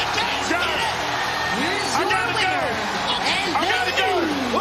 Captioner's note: bell